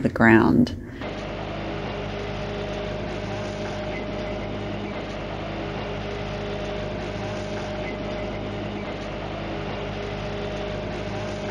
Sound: engine noise

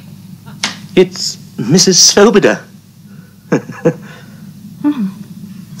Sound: laughs

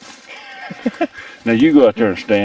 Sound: laughing

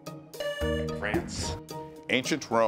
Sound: buzzer beeps

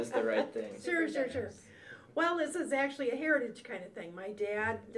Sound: laughs

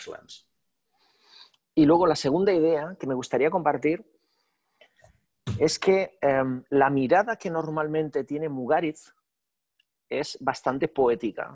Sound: speaking spanish

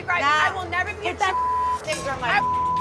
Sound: beep

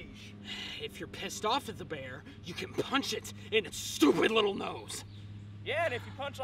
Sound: exhales

